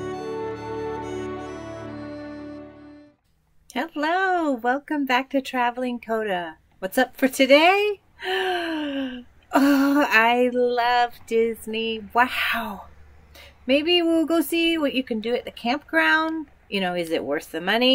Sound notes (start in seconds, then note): none